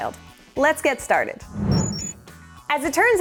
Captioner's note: whoosh; beeping